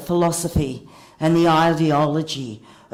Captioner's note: none